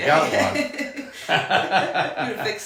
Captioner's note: laughing